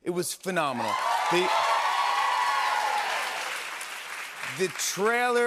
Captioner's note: cheers and applause